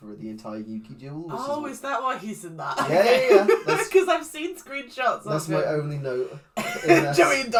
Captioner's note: laughs; laughs